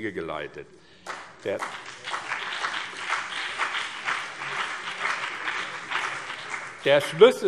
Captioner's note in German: Beifall BÜNDNIS 90/DIE GRÜNEN und CDU